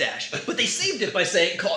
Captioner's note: laughs